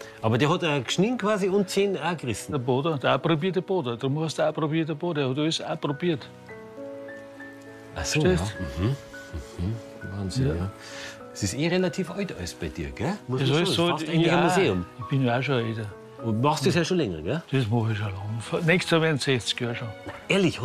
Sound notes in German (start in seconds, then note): 4.0 bairisch